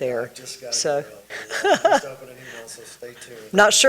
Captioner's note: laughing